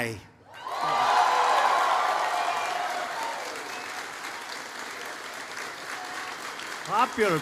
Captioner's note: applause